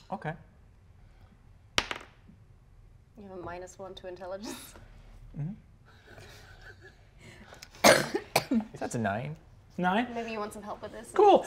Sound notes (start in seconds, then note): 1.8 die taps table; 4.5 laughs; 6.0 players chuckle softly